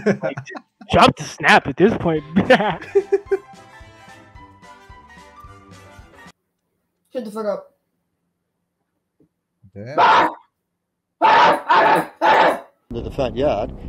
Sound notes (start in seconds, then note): 0.0 laughs; 10.0 barking